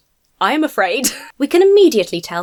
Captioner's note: wheezes